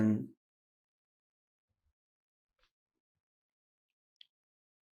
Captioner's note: pauses 6 seconds